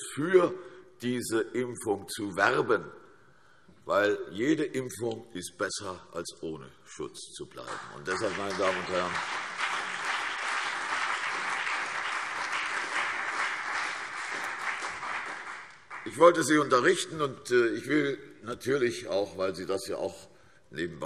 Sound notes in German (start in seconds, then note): 8.9 Beifall CDU und BÜNDNIS 90/DIE GRÜNEN